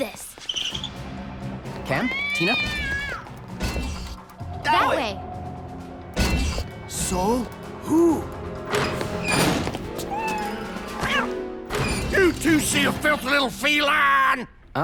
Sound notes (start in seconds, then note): 0.3 shoe treads squeak; 2.1 cat meows